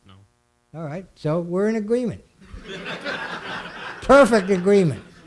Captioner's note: laughing